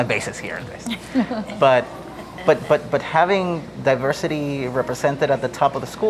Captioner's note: laugh